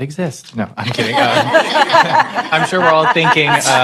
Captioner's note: laughter